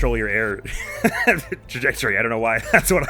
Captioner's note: chortles